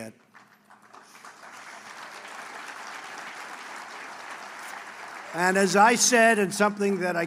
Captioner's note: applause